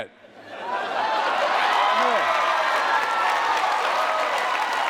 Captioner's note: cheering